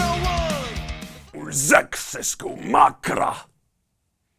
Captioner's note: alien sounds